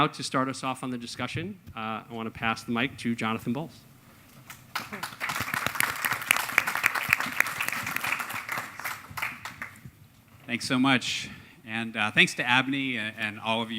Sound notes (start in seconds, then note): 4.4 applause